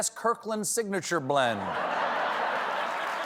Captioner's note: laughter; applause